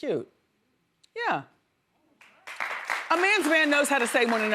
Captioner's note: audience applauds